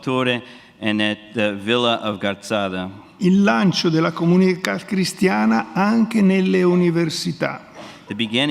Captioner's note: speaks in Italian